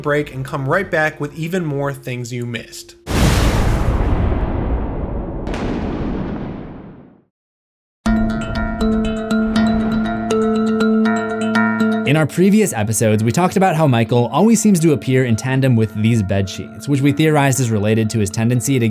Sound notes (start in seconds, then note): 3.1 thunder crackles